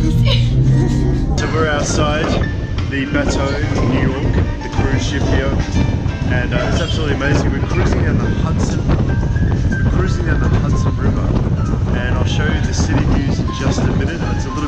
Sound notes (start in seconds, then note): 8.3 air whooshing